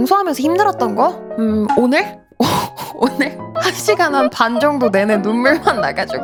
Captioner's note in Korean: 웃음